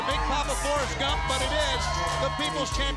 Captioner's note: crowd cheering